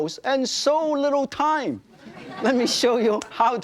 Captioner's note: audience laughing